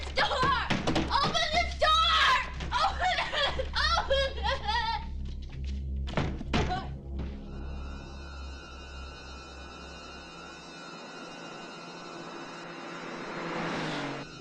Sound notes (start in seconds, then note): 5.5 Julie crying; 8.8 suspenseful music